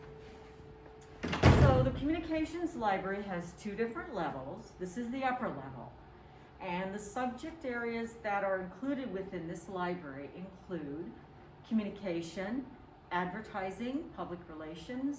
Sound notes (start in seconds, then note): 1.1 door closing